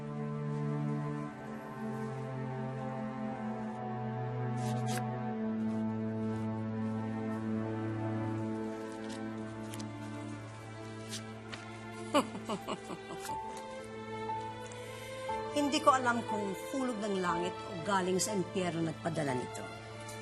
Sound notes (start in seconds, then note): 12.1 Leonora laughs viciously